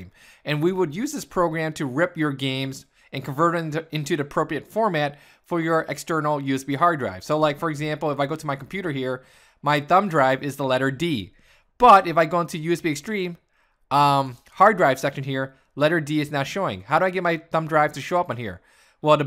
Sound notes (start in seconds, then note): none